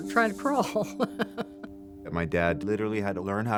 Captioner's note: laughing